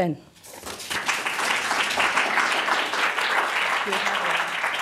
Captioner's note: applause